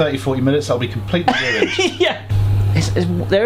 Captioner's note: laughing